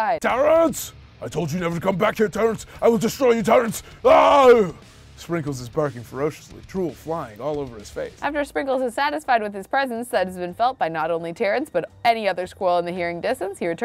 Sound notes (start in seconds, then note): 0.3 intense metal music; 4.0 screams